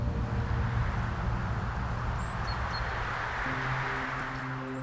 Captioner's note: wind whooshing